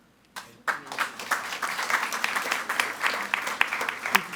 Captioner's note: all applauding